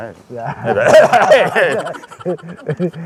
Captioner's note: cough cough